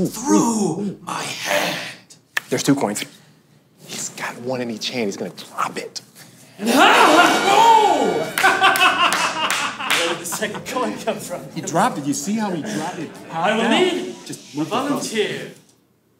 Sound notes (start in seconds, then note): 8.3 laughter and clapping